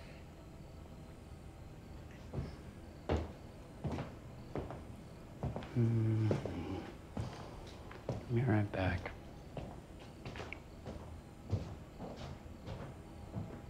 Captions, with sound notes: (footsteps approaching) (Tyler humming) Be right back. (footsteps receding)